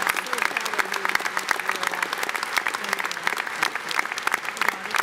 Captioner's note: audience clapping; ladies muttering